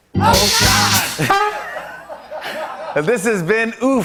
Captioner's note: laughter